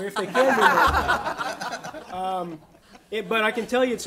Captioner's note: audience laughter